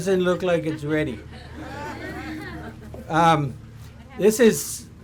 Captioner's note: audience laughs